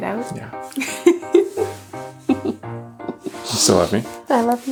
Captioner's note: laughs